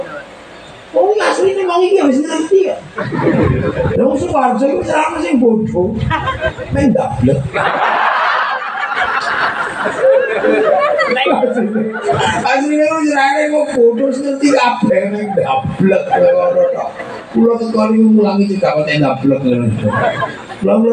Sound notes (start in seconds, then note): 7.4 laughs